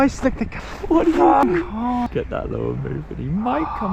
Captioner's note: laughing nervously